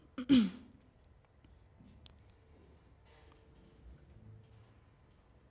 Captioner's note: cough